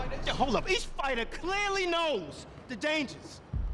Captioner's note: shouting